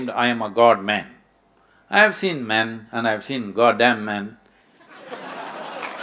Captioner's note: laughter/Applause